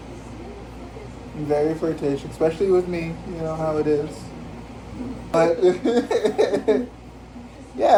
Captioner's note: laughs